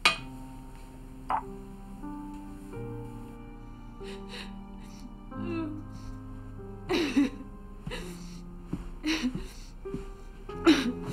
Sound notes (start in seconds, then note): 0.1 moody piano music; 4.2 Nancy sobs